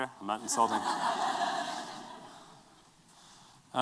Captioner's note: laughter